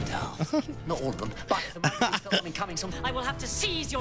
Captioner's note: laugh; small laugh